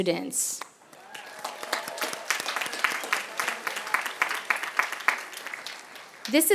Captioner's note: applause